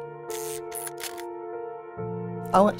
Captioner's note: camera shutter clicks